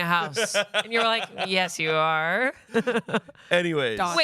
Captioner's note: laughs